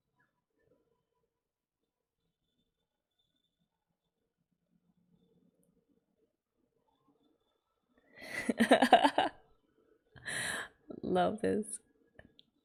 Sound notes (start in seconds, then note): 8.3 laughs